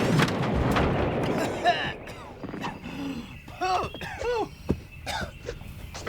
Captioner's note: explosion; coughing